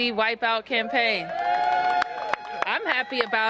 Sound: applause

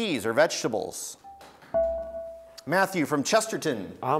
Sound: buzzer beeps

